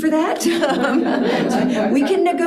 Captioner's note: participants laughing